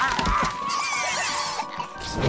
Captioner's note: yelping and gibbering; growling